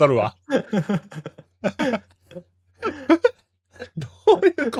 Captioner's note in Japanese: 笑い